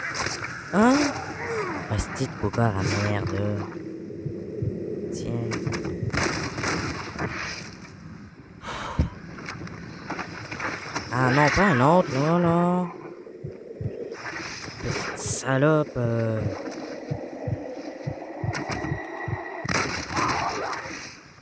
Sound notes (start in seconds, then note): 5.5 target lock sounds and fire; 7.2 sound of pain and laughter